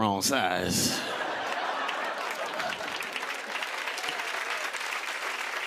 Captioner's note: cheers and applause